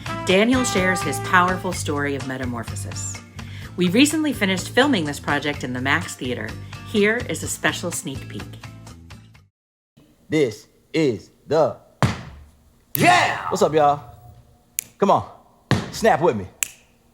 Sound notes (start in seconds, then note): 12.0 stomp